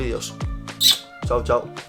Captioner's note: kisses